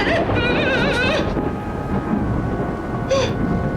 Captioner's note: sobbing